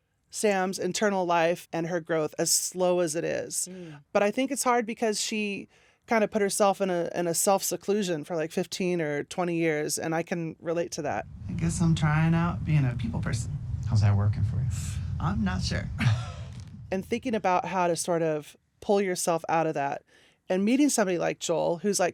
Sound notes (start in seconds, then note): 11.3 soundbite of tv show, "somebody somewhere"